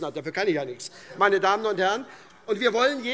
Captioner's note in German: Heiterkeit SPD und AfD